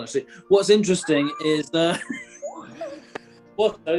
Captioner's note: sniggering